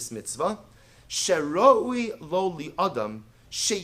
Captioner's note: Hebrew